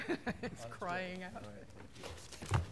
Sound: laughter

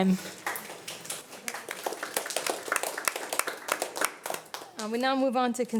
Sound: audience applauding

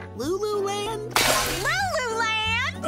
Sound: glass Breaks

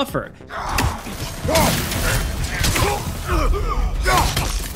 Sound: grunts

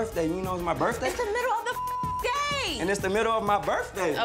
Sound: beep

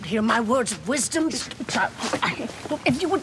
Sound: stammering

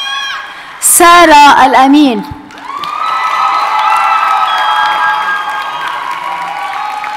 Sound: audience cheers and applauds

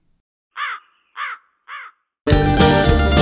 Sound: crow caws; upbeat country music

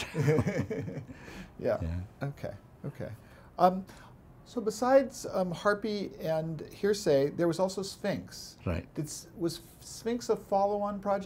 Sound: laughs

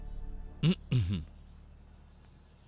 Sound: clears throat

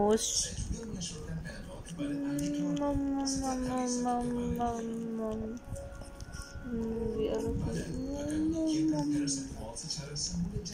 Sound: more cooing noises

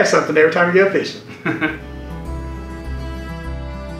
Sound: chuckling; gentle relaxing music

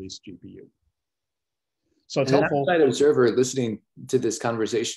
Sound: calm Voice

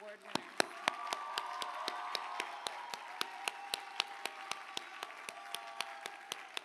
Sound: applause

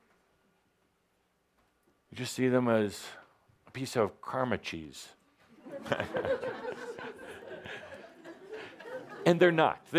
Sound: laughter

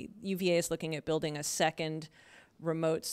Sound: none

